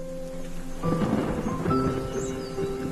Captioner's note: thunder crackles; distorted synth instrumental rumbles